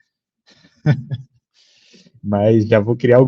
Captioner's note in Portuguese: risos